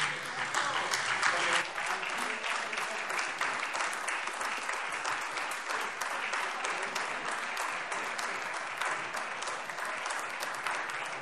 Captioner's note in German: Beifall SPD und AfD